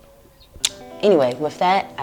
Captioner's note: sucks teeth